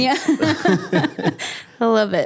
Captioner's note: both laughing